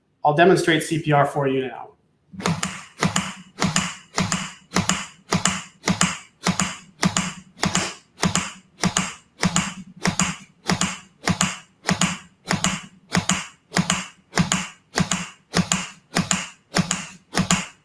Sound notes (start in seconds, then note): 3.0 heartbeat clicking